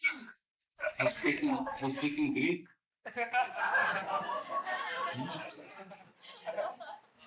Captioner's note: laughter